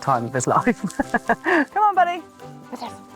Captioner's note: laughing